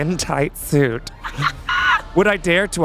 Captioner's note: laughing